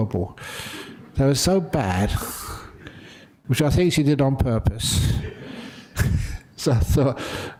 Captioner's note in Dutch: lachen